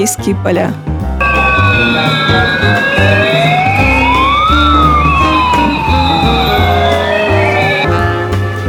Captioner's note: sirens